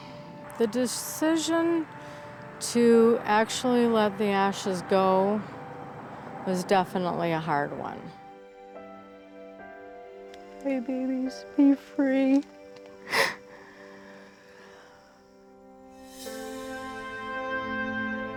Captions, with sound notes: The decision to actually let the ashes go was definitely a hard one. OK, babies. Be free. [crying] [melancholic music]